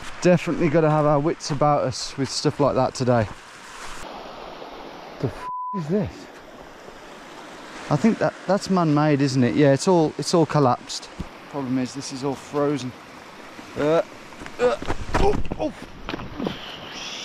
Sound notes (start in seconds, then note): 5.4 beep; 14.6 groaning